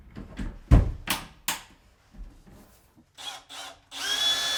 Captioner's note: hand thudding; drill whirring